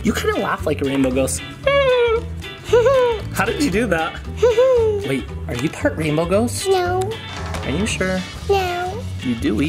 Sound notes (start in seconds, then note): 2.6 chuckles; 2.6 laughing; 4.4 laughing